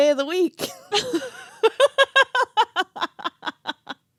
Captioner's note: laughing